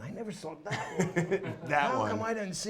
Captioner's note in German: lachen